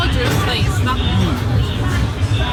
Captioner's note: mumbling